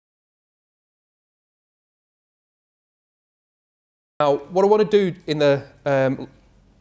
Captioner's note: silence